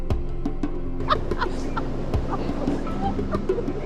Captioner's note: laughter